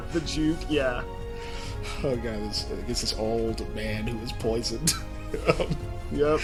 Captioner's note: laughs